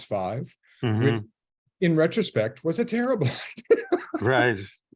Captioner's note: he laughs